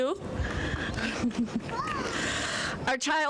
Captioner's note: chuckling